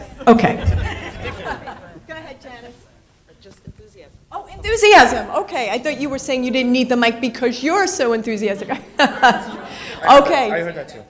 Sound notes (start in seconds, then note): 2.8 in Unison; 8.6 laughs